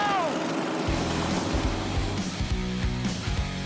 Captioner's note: engines roaring